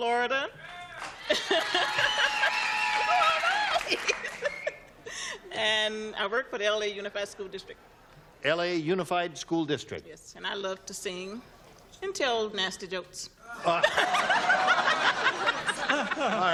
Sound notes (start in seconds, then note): 0.6 cheering; 13.5 laughter